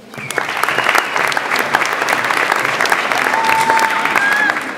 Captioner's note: audience applauds